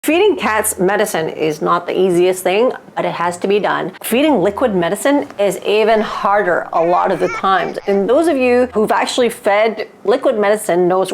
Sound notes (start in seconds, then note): 5.8 baby crying